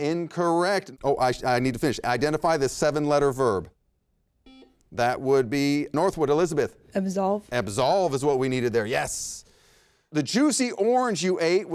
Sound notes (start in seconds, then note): 4.4 buzzer beeps